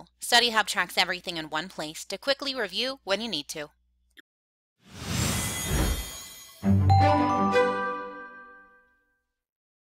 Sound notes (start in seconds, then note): 5.1 air whoosing; 5.7 chimes ringing